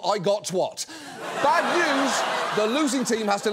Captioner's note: audience laughs